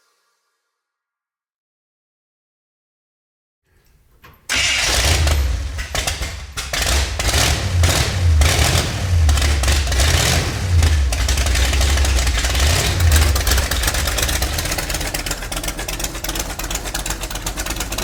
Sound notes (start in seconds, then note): 4.7 engine sputtering